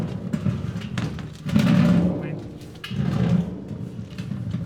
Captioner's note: metal barrel rolling over